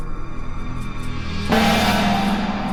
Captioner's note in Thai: เสียงฆ้อง